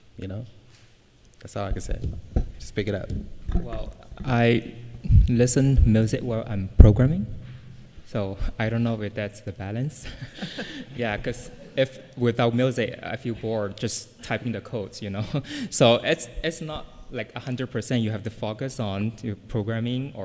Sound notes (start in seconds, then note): 10.0 laughter